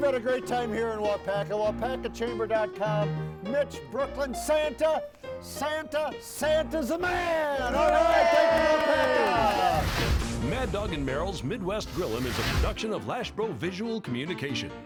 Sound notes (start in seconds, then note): 7.0 group cheering; 14.6 playful music continues